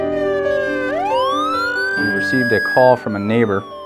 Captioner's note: siren